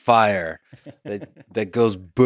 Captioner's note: Tim laughs